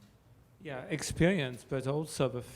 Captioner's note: voiceover